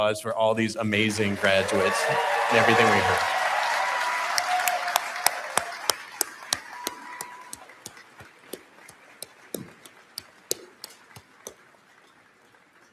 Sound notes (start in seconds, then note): 2.6 applause